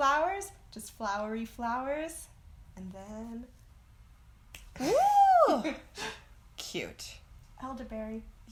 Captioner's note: snap